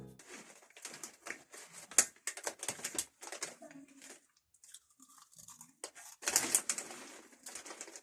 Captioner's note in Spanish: Sonidos de alguien comiendo suflé de maní